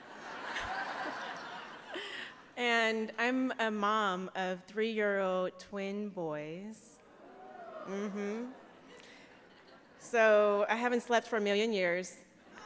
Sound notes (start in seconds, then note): 0.0 laughter; 7.1 audience reacts